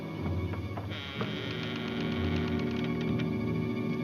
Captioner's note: doors creaking